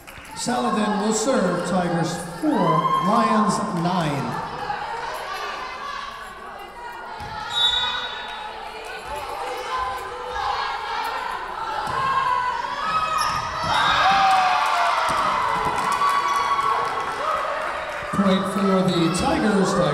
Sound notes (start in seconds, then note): 7.4 whistle blowing; 14.3 Tigers cheering